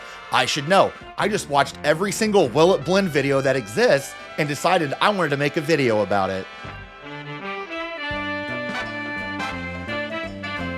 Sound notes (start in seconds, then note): none